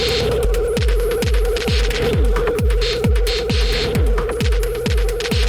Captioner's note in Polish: Miarowe, niskie, głuche uderzenia